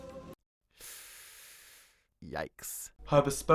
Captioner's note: inhales sharply